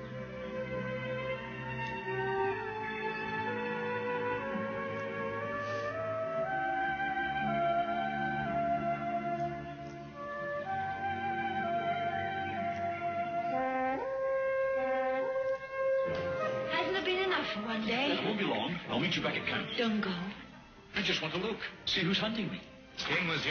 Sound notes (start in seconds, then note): 13.4 horn blows on video